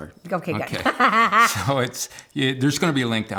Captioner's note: laughs